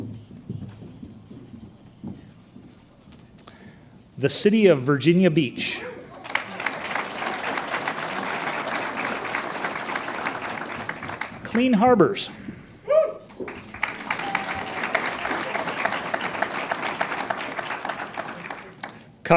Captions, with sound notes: The City of Virginia Beach. (audience applauds) Clean Harbors. (audience cheers) (audience applauds)